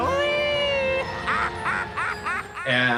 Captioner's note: laughing